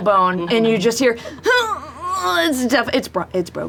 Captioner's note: pained groan